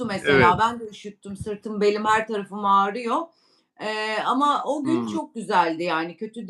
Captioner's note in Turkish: boğazını temizler